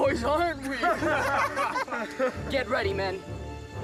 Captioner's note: Feathers laughing